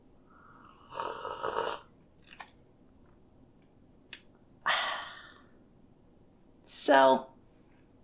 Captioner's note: sippy noises